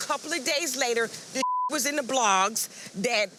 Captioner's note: beep